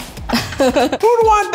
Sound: chuckles

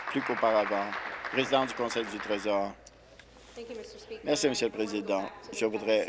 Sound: applause

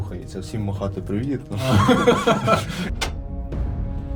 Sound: laughter

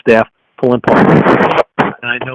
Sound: loud rustling

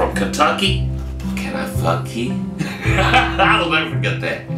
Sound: laughs

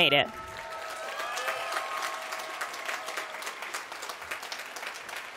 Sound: applause

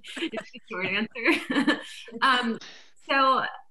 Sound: laughs

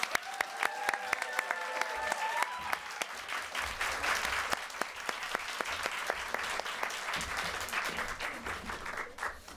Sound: cheers and applause

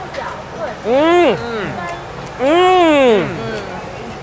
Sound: air conditioner blowing; groans of delight

